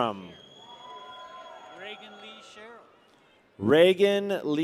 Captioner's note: people cheer